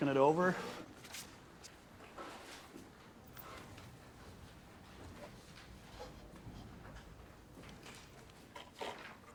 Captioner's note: papers rustling